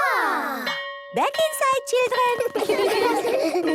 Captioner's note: school bell